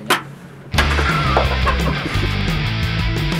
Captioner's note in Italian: risate di sottofondo